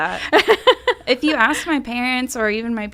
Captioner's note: laughs